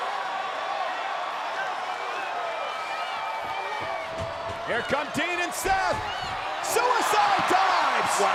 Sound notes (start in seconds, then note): 1.4 applause